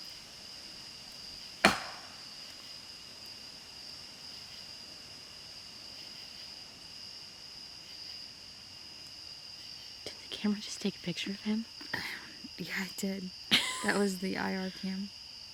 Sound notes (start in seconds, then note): 1.6 stick clacking